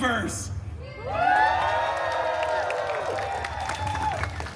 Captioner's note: guests cheering and applauding